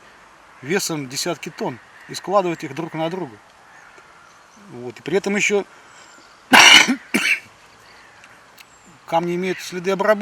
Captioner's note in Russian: откашливается